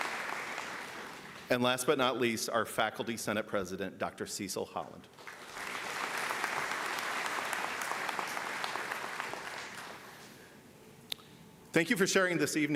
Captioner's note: applause